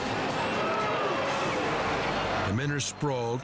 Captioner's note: audience gasping